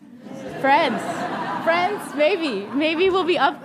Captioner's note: audience laughing